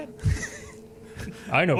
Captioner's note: laughing